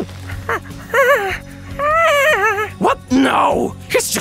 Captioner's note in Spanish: ruidos de duda de trasgo